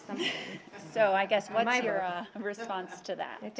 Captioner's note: laughter